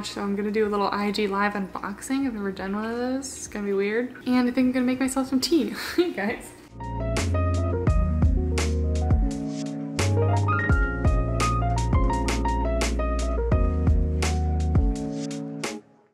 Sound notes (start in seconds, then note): 5.7 chuckles; 6.9 upbeat music